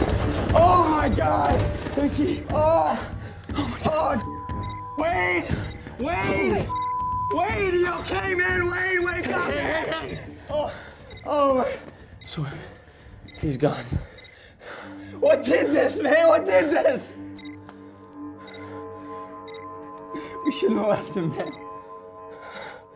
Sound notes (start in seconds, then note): 18.0 beeping